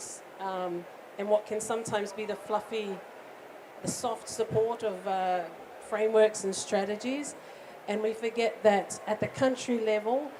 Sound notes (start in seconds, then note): none